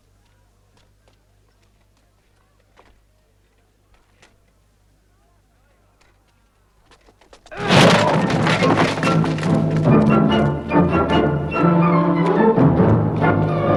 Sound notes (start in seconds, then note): 7.5 door slams; 7.8 man groans